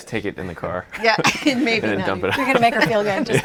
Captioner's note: all laughing